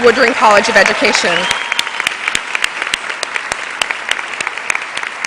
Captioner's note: cheers and applause